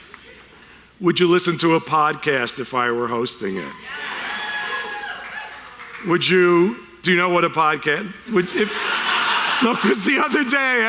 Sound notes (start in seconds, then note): 3.7 a few cheers; 8.3 audience laughter